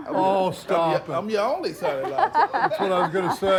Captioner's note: laughs